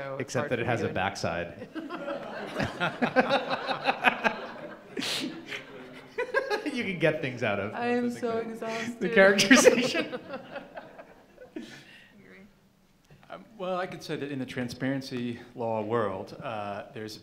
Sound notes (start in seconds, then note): 1.6 laughing; 8.1 laughing